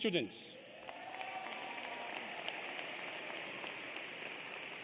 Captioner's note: cheers and applause